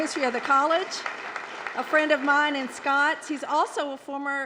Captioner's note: applause